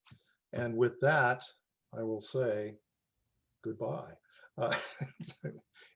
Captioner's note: laughs